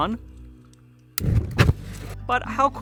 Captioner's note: flame ignites